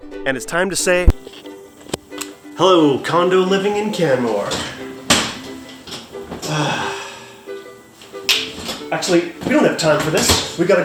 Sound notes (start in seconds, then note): 3.9 chair clattering; 6.3 sighing; 8.2 snapping